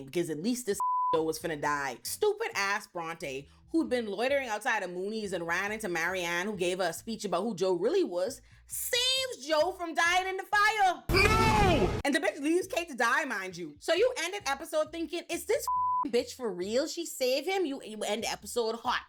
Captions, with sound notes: because at least this (beep) Joe was gonna die. Stupid ass Bronte who'd been loitering outside of Mooneys and ran into Marianne who gave her a speech about who Joe really was, saves Joe from dying in the fire. (screaming) And the bitch leaves Kate to die mind you. So you ended episode thinking, is this (beep) bitch for real? She saved him? You end episode hot.